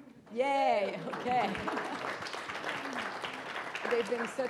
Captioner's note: audience clapping